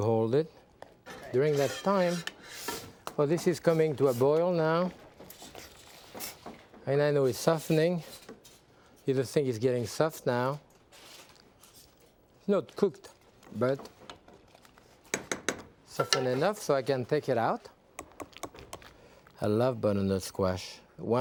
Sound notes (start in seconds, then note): 15.1 spoon tapping